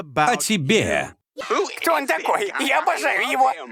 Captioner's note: cheerering